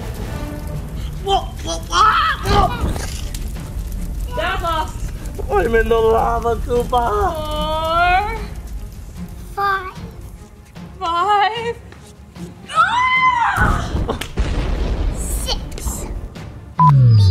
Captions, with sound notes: - Whoa! - Dad lost. - I'm in the lava, Koopa. - Four... - Five. - Five. (screams) (explodes) - Six.